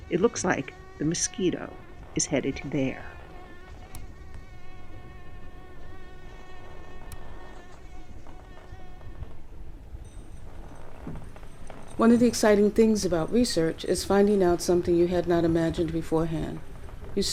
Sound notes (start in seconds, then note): 0.0 mosquito buzzing; 4.0 mosquito buzzing; 4.0 mouse click; 5.9 mosquito buzzing